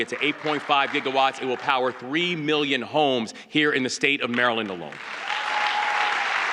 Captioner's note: applause